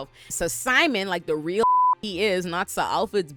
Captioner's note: beep